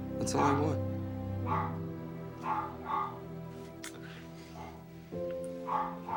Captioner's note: dog barking